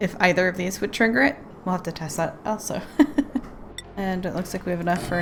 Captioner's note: laughs